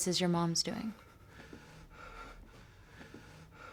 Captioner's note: breathing heavily